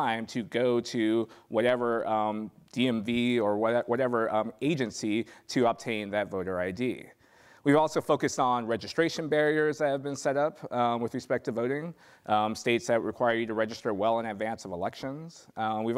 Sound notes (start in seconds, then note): none